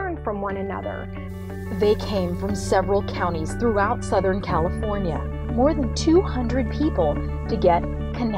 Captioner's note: voiceover